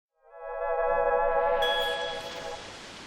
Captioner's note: tone fading in